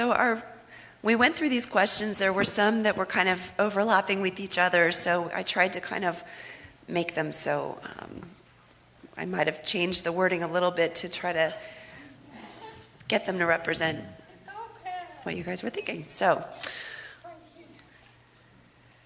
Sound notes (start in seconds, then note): 11.0 off camera discussion